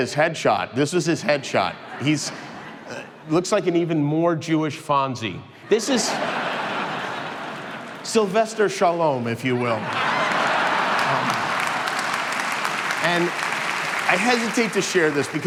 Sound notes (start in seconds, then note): 5.6 crowd laughing; 11.7 crowd clapping